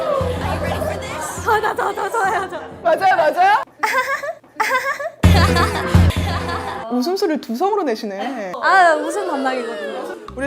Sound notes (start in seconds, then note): 3.8 reenacting the laugh